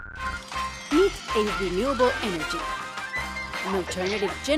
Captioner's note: voiceover